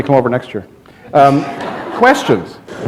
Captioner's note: laughter